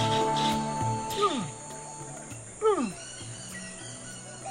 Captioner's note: imitates animal noises